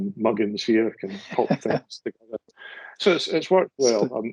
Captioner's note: laughs